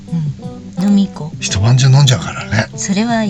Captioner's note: laughs